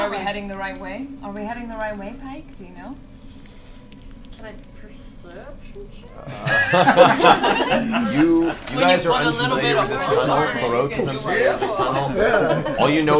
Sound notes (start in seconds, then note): 6.3 all laugh